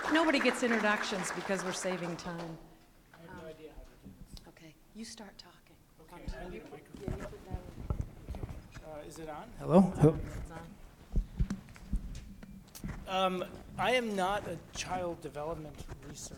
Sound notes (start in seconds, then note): 3.5 background Talking